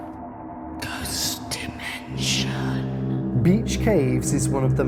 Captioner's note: eerie music; voiceover